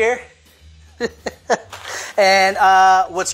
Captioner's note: laughs